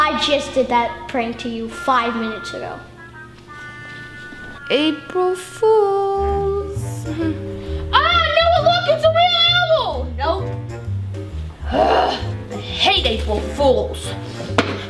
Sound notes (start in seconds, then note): 11.6 grunts; 14.5 stomping